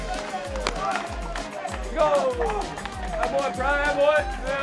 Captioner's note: cheering